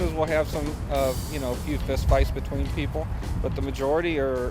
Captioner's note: none